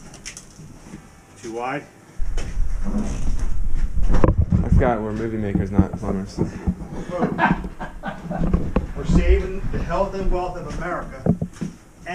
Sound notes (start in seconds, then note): 6.8 laughing